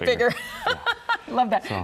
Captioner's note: laughs